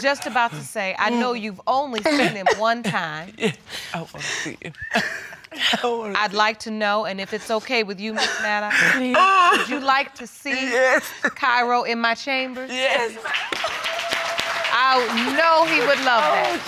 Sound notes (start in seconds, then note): 4.0 sobbing; 13.2 all applauding